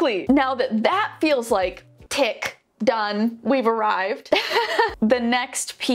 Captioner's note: laughs